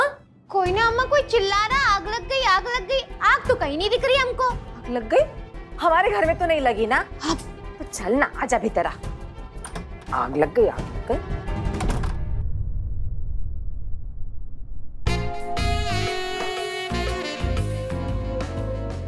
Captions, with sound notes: Nothing, Mother. Someone was just shouting about fire in the building. I don't see fire anywhere. But it's not in our house, right? Let it go. Come on inside. 'Fire in the building'. [door closes] [suspenseful music]